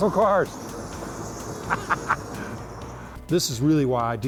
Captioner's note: laughs